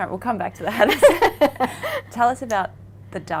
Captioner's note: laughing